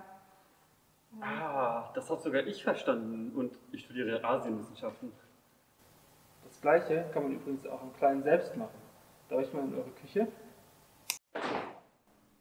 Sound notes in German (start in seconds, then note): 11.0 Schnips!